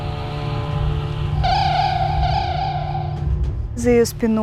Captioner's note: sounds of virtual birds